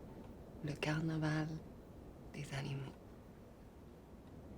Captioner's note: French spoken audio